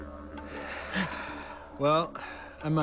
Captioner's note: chuckles; exhaling